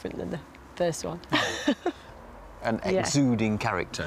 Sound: chuckles

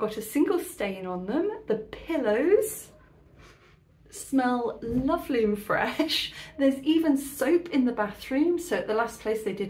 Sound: sniffing

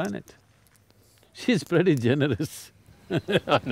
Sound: both Laugh

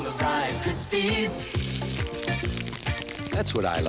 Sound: crackle!

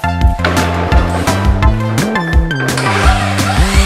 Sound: wood thuds; saw whirs

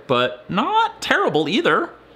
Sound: none

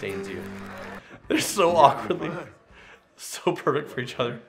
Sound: laughs

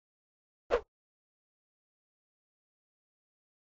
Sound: swoosh

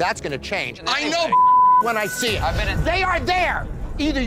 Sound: beep

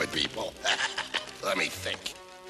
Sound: cackles

